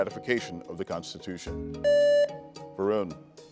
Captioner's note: buzzer beeps